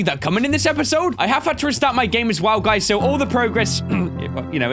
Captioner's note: ahem